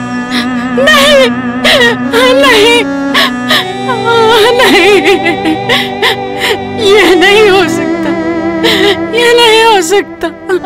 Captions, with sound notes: No! No! No! [Wailing] This is not possible.